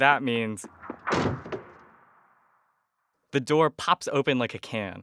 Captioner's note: soundbite of door opening